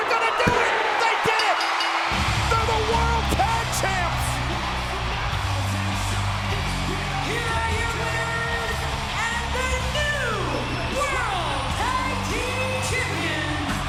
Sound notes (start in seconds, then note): 1.2 bell ringing; 1.7 upbeat music; 5.8 crowd cheering